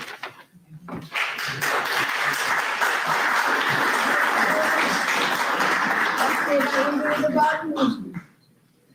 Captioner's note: applause